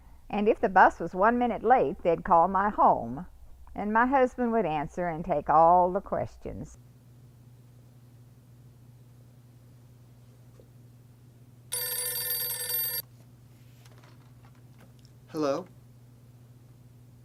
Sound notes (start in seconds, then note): 11.7 phone rings